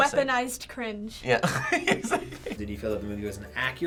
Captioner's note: laughing